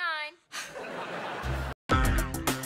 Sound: laughing

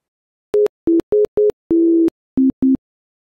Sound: phone dialling

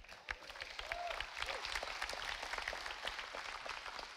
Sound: audience applauding

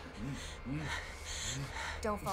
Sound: heavy breathing

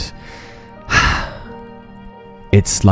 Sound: sigh

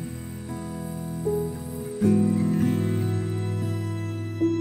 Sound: crickets chirping

